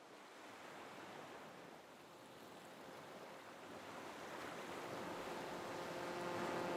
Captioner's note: sound of water flowing